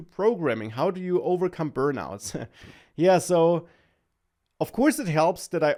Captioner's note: laughs